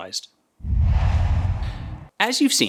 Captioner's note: logo swooshes